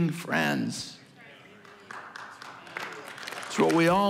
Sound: congregation applauding

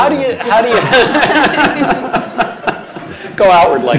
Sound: laughter

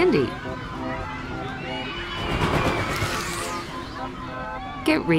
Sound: carnival noises

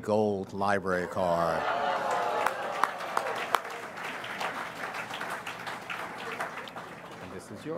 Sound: audience cheers and applauds; claps

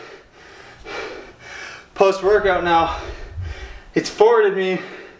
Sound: breathing heavily

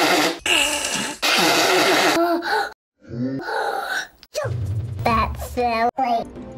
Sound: heavy breathing

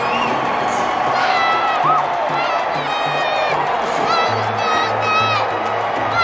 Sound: crowd shouting and cheering

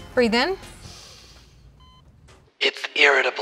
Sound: patient inhales; eerie voice

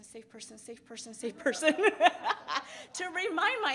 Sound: laughs

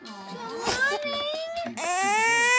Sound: crying

